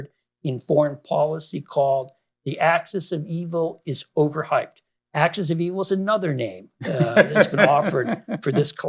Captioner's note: laughter